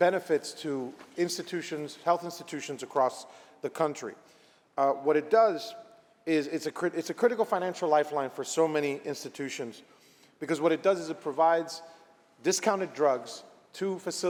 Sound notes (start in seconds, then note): none